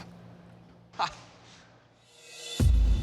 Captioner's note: laughs; tense music